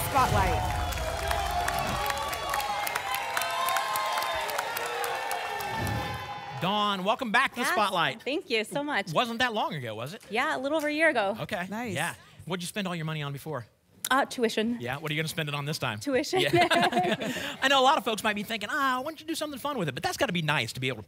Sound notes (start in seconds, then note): 0.0 applause and cheering; 1.8 whoosh; 2.8 applause and cheering; 5.7 whoosh